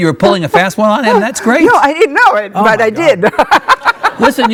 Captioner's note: laughs